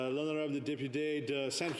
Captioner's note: speaking French